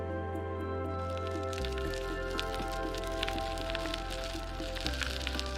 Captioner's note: bicycle tires turning